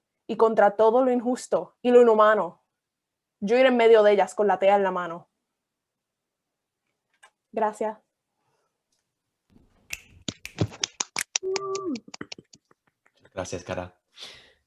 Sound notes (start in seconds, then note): 10.4 applause